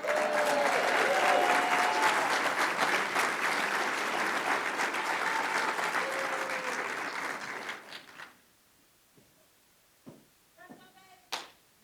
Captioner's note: applause